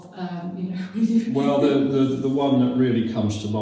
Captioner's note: chuckles